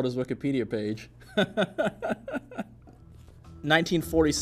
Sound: awkward laughter

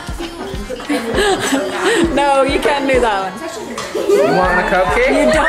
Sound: laughs

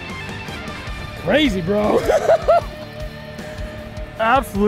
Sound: laughing

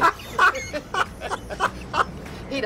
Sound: laughs

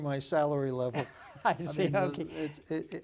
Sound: laughing

